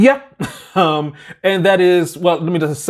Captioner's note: laughs